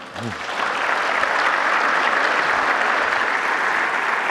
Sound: audience applauding

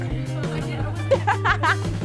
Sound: laughing

